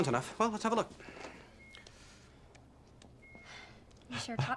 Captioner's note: monitor beeping; doctor sighing